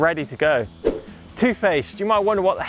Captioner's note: swish